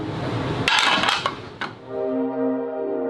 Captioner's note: pan clattering; soft music